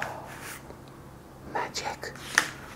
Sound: whispers

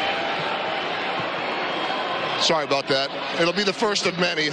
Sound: cheers and applause

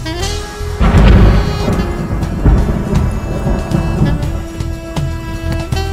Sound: thunderstorm

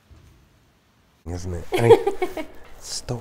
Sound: assistant giggles

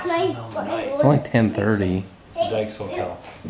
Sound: children chattering

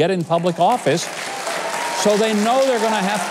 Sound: audience applauding

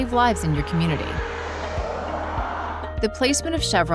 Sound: car passing

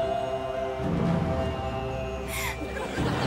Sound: gasping

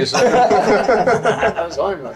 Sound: everybody laughing

